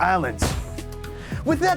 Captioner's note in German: Tür gibt nach